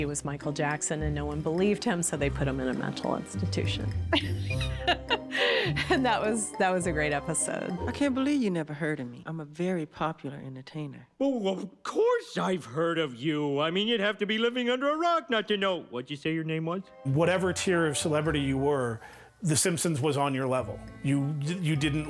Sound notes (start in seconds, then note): 4.2 laughs